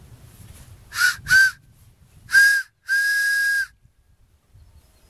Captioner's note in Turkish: Tiz ve yüksek düdük sesi